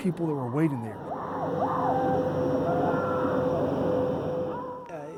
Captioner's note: crowd cheering